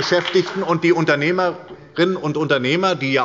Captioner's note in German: Beifall bei der SPD